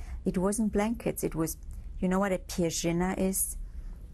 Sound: non-english speech

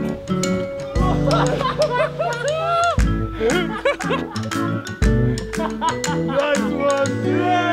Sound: elevator music playing; laughter

